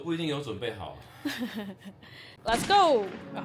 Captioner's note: awkward laugh